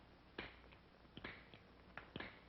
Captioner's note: click